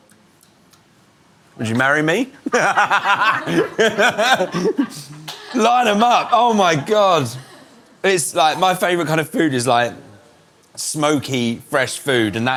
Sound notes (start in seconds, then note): 2.4 laughter